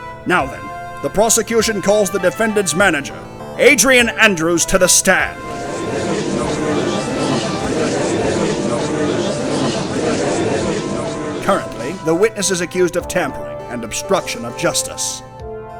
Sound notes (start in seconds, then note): 6.0 gallery chattering